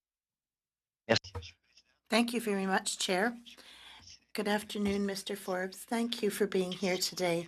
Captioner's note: speaking French